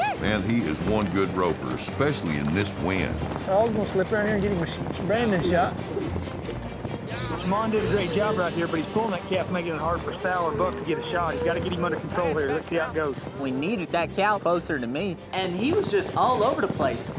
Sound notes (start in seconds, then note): 6.0 rope swirling